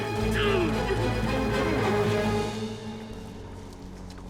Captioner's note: grunting